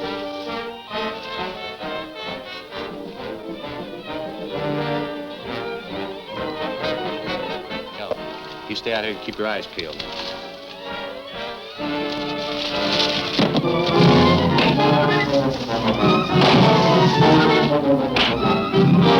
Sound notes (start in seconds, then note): 1.0 shade rustling; 14.6 punching sounds